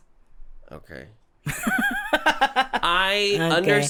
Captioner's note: laughs